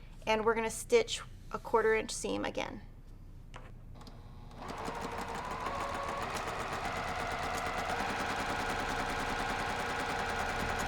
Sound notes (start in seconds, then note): 4.5 sewing machine sound